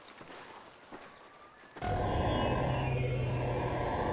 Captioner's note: computerized squeaking